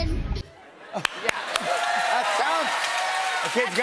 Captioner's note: cheers and applause